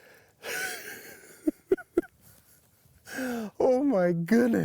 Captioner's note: chuckles